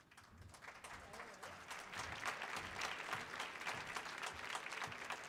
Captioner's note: audience applauding